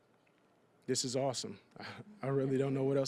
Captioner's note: audience chuckling